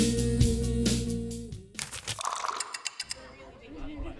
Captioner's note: lo-fi music; SFX: flipping pages, running water, ticking clock